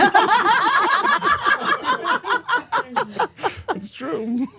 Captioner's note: all laughing